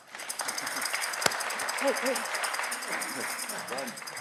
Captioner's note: audience cheering